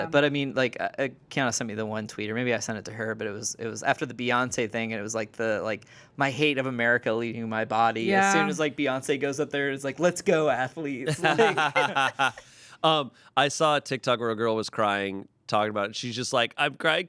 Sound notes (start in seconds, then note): 11.0 everyone laughs